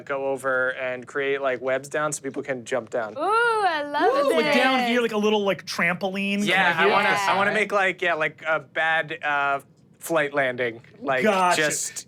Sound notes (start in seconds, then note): 4.0 cheers